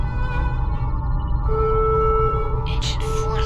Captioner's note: alarm blaring